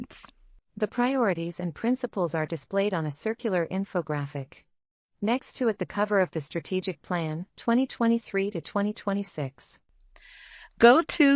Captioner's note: audio Description being read